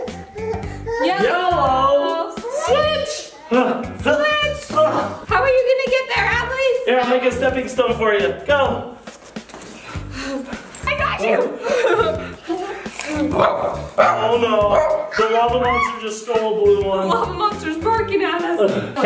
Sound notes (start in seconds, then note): 11.1 laughs; 13.0 dog barking